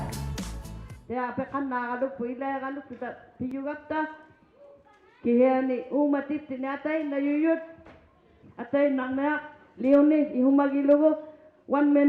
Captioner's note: crowd chattering; speaking alternate language